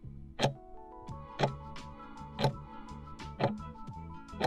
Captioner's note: timer ticking